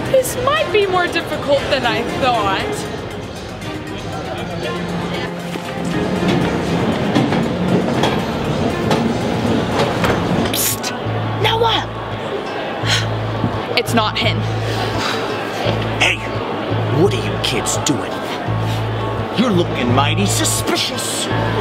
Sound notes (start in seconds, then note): 3.5 upbeat orchestral music; 12.8 sighs; 16.0 sighs